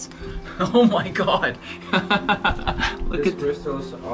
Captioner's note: laughing